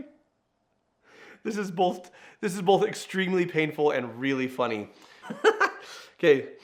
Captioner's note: laughs